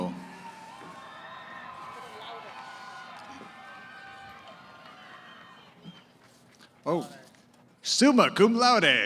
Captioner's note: cheering